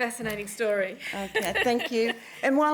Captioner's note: laughs